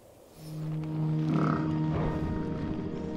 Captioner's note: mammoths snort